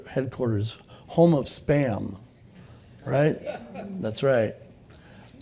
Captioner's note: laughter